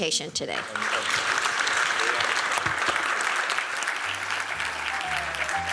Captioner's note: applause